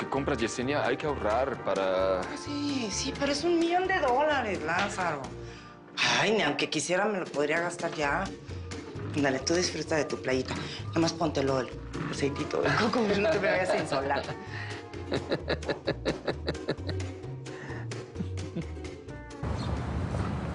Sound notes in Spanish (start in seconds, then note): 14.9 El ríe